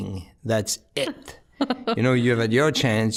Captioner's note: chuckling